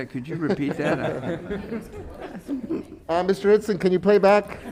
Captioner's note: panelists laughing